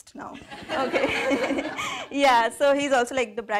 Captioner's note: laughing